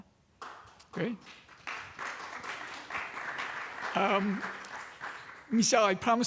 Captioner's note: applause